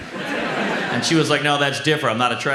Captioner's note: audience laughs